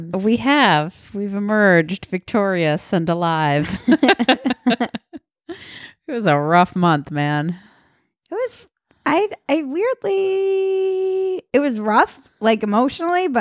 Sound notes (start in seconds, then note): 3.6 laughing